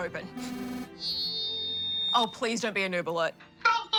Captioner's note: whirring and feedback